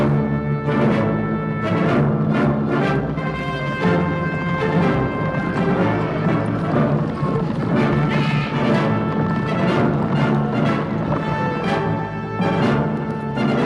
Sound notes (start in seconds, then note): 0.1 dramatic orchestral music; 5.7 horse hooves pounding